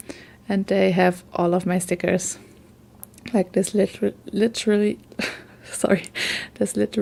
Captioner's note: laugh